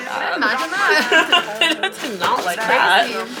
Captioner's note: laughing